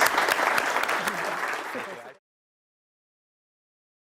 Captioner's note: audience applause